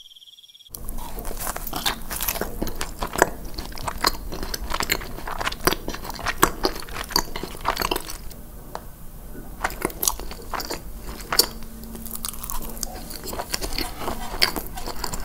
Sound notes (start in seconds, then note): 0.7 asmr eating